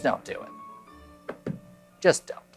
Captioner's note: taps cards